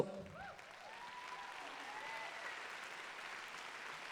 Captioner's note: applause